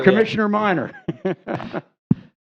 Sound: laughter

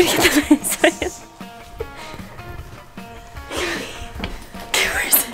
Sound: giggles

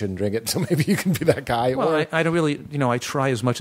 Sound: laughing

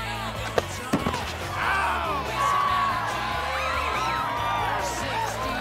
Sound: cheering

